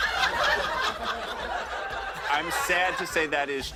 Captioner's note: laughter